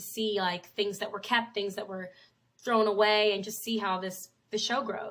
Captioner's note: none